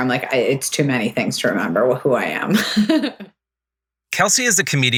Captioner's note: laughs